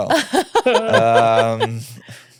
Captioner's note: laughing